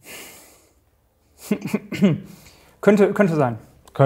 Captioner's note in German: Räuspern